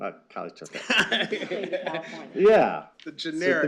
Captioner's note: laughter